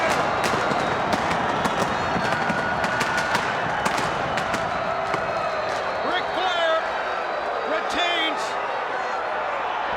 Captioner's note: crowd chatter